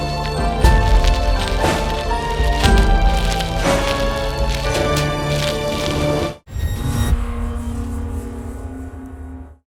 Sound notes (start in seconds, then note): 0.2 triumphant orchestra music plays; 6.5 electronic swoosh